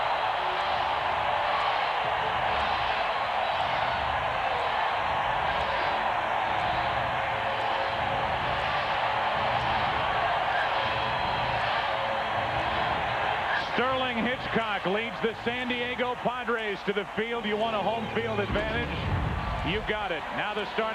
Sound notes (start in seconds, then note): 1.2 cheers and applause